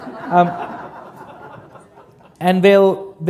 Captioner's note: laughter